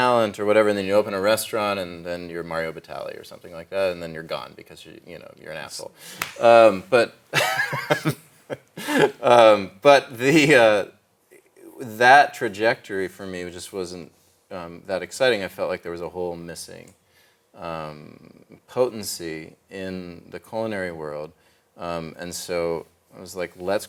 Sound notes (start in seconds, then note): 7.3 laughs